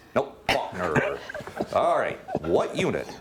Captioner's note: laughing